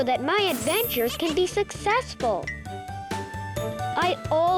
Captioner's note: planet laughing and clinking